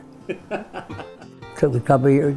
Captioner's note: laughs